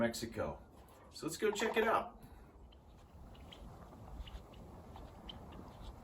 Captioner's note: various bird calls